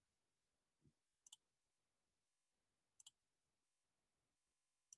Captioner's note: mouse clicking